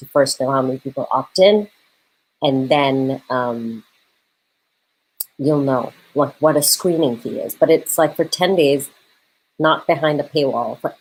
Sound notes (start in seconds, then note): none